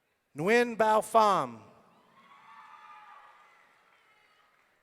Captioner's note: audience cheering